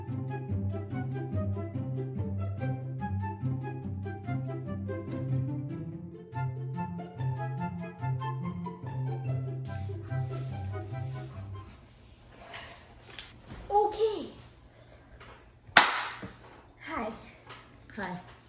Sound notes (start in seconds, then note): 15.7 claps her hands loud